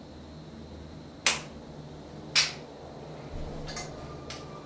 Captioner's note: fingers snapping